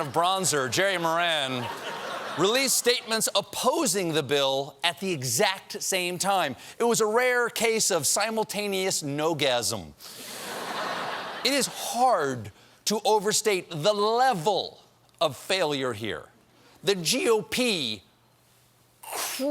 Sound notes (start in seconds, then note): 10.3 laughter